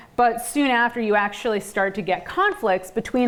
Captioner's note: none